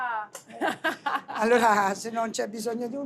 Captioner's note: laughs